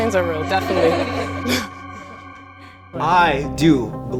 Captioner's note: girls laughing